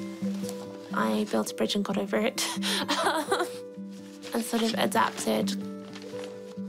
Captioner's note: laughs